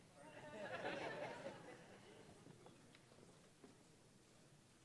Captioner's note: audience laughing